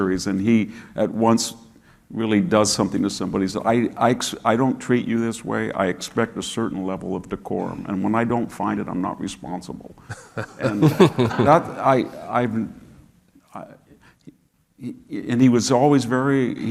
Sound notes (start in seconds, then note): 10.1 audience laughing